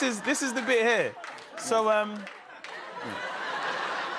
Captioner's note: laughter